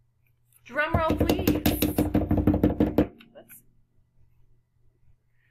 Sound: hands beating

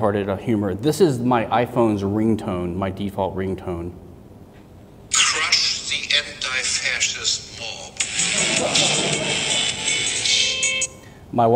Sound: ring tone

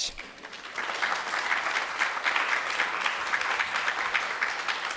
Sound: audience clapping

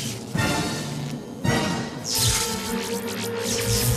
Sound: eel zzzt, energy buzzes

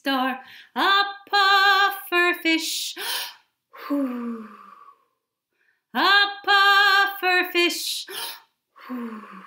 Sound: breathes in and out

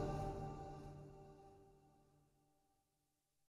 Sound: silence because the video and music are over

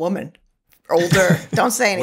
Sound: laughter

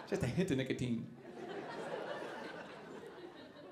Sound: audience laughing

